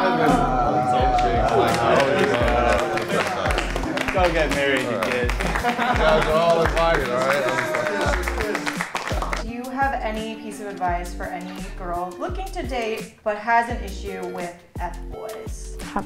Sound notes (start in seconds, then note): 1.6 men clapping; 4.9 laughs